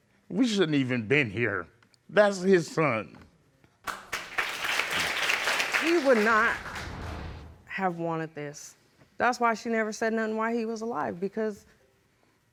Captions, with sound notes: We shouldn't have even been here. That's his son. (AUDIENCE APPLAUDS) He would not have wanted this. That's why she said nothing while he was alive because